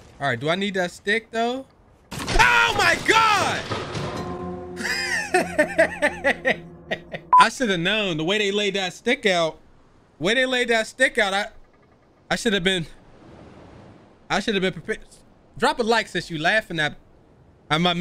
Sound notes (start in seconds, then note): 4.8 laughing